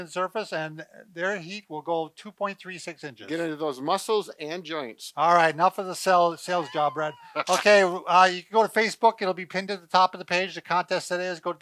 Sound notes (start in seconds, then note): 6.5 chuckles